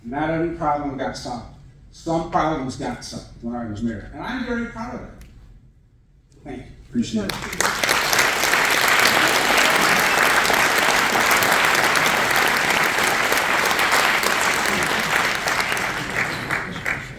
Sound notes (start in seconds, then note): 9.0 audience applauding